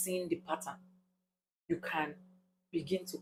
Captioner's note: paause